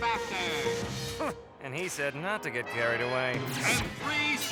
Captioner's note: scoffs